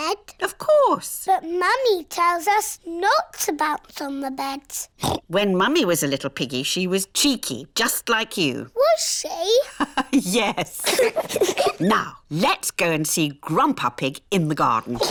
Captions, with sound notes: -Of course. -But Mummy tells us not to bounce on the beds. (OINKS) When Mummy was a little piggy she was cheeky, just like you. Was she? -(LAUGHS) Yes. -(BOTH GIGGLE) Now, let's go and see Grandpa Pig in the garden.